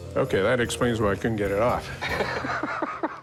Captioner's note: laughter